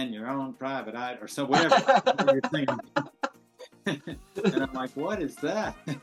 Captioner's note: laughs